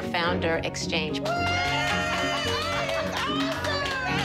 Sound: cheering, applause

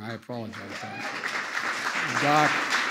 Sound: applause

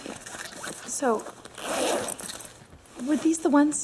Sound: unzipping of bag

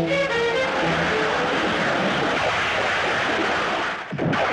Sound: thunder Rumbling

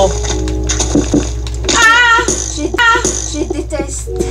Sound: screams in fear

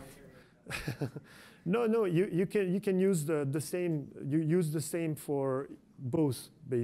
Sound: laughs

